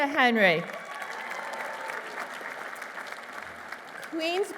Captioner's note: applause